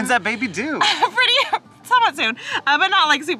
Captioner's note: chuckles